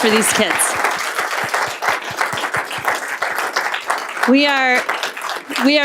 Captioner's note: applause